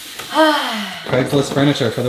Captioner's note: sighs